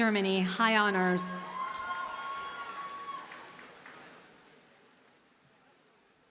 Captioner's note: audience cheers and applauds